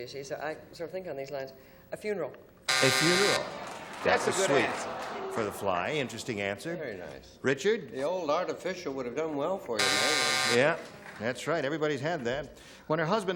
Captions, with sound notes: so I sort of think on these lines. A funeral. (buzzer) (applause) -That's sweet, for the fly. Interesting answer. -Richard? -The old artificial would've done well for you, Meg. (buzzer) -Yeah, that's right. Everybody had that.